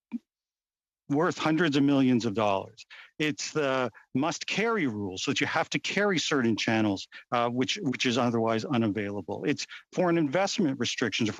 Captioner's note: speaking French